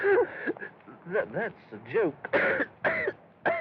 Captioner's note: wheezes; coughing